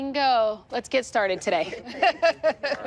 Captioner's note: laughing